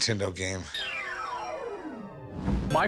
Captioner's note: arcade "game over" sound